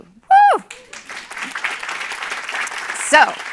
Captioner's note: cheering and applause